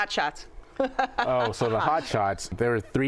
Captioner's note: laughing